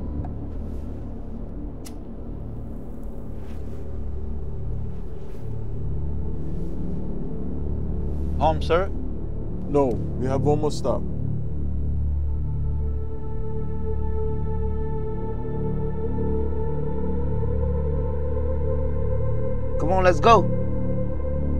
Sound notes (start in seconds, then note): 1.8 lighter flicking; 12.6 ominous sound intensifies